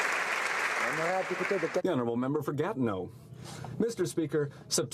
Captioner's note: applause